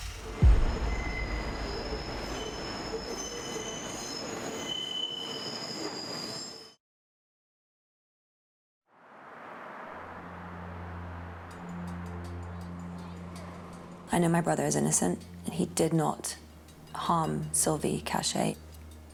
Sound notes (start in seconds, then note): 0.6 wheels squealing